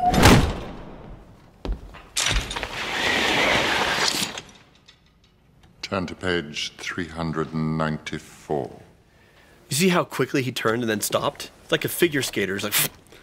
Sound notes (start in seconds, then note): 0.0 slam; 2.8 ziiip